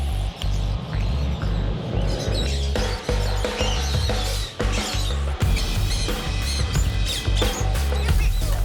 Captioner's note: birds tweeting